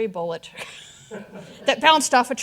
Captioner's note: all laughing